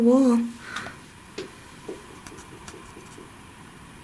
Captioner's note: quiet tapping